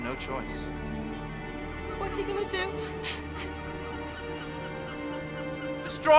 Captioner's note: breathes shakily